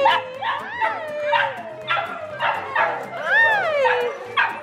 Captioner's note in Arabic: كلاب تنبح